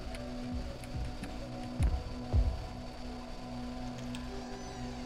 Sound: heavy steps; chase music

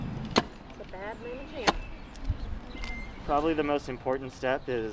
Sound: ax smacking the ground

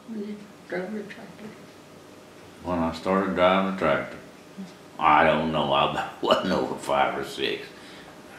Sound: laughs

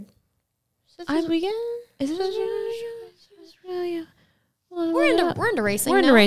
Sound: speak gibberish

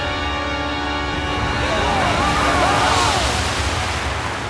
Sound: screaming

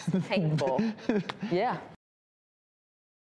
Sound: weak laughing

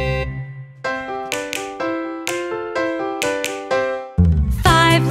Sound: gentle music; fingers clicking

